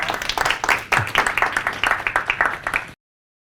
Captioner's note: applause